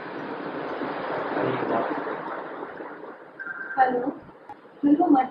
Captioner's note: exhausted tone